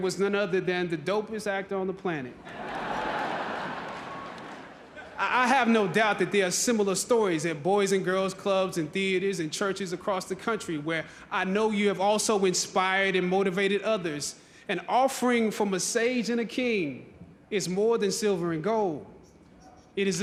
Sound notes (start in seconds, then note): 2.4 audience laughing